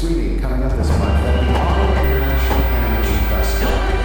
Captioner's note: crowd cheering